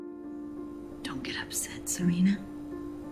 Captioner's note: voiceover